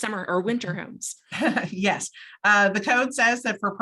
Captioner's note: laughs